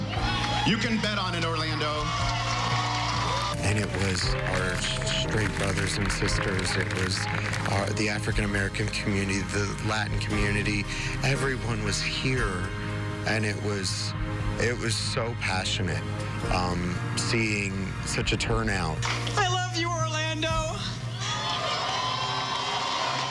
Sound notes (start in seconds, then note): 7.0 applause